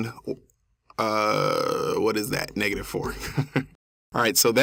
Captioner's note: laugh